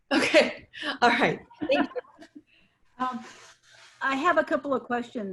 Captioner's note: multiple people laughing